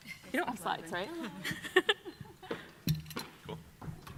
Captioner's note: laughs